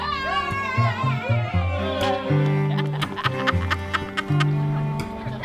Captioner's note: yey, applause